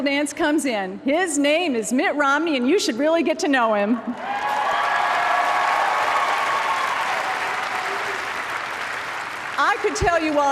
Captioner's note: applause